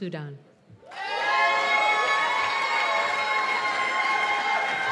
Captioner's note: cheers and applause